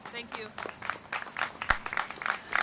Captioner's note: applause